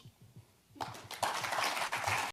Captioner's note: audience applauds